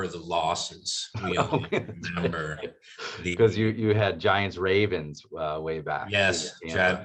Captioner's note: laugh